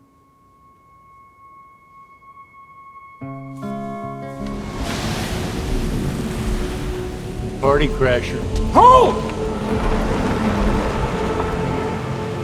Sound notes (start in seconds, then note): 2.9 tender music; 4.4 traffic rumbles